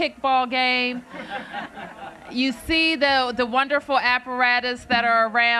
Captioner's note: laughter